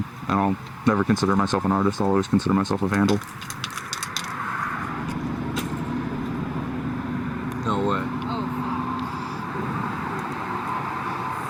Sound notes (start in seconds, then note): 3.2 spray paint can shakes